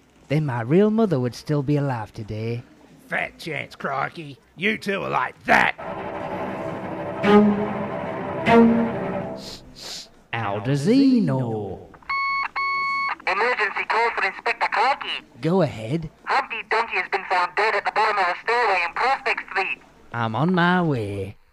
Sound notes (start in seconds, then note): 5.7 horror music; 9.7 sniff sniff; 12.6 radio beep